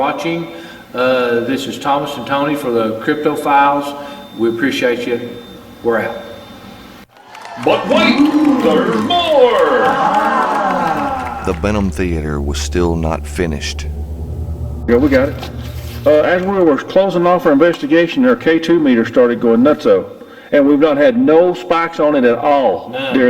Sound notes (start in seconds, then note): 7.1 audience applauds and cheers; 12.1 haunting music